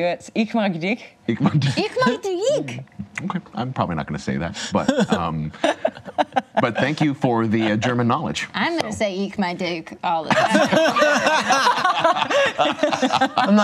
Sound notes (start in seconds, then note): 0.0 speaks in German; 9.4 speaks in German; 10.3 laughs